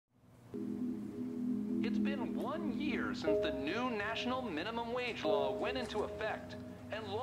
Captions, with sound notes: - [Radio Announcer] It's been one year since the new national minimum wage law went into effect